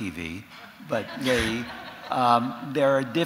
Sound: audience chuckles

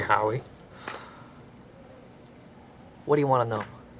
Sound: sigh

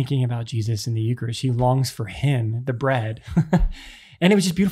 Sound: laughs

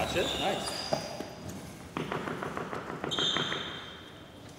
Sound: hand tapping ground

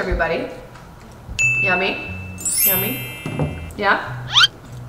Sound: bell rings

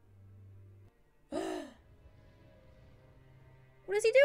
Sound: gasp

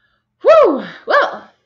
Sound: sighs

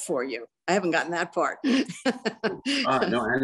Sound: laughs

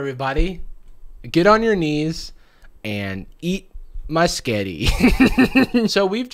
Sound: laughs

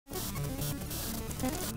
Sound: glitch SFX

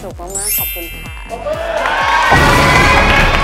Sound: applause

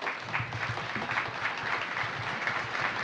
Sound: applause

